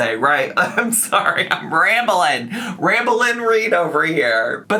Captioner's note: laughs